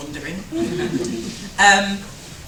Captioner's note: chuckles